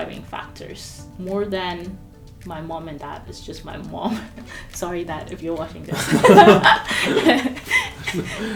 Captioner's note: laugh